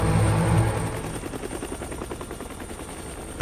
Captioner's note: helicopter blades whirring